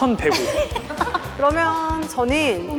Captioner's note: giggle